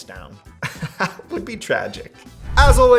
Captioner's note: laughing